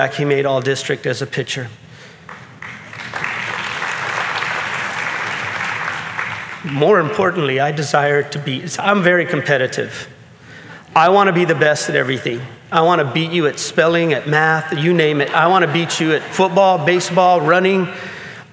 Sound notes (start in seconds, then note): 2.2 audience clapping